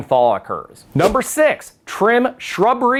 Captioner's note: text whooshes